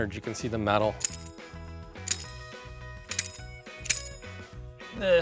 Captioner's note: spur jangling